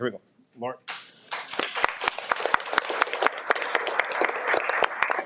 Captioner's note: audience applauds